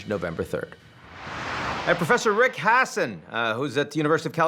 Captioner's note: air whooshing